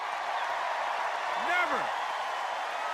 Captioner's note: cheers and applause continues while biden speaks